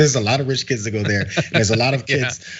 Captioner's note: laugh